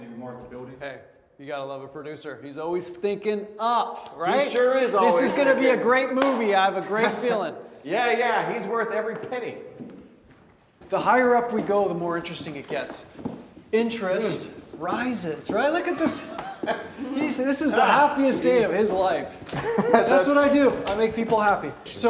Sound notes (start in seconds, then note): 6.1 Wes claps; 15.7 Wes laughs